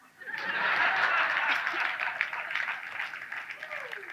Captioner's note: audience laughs